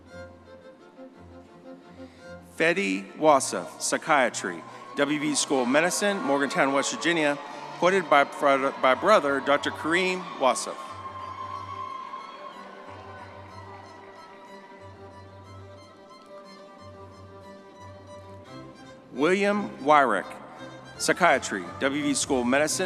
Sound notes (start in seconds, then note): 10.9 audience cheering; 10.9 triumphant music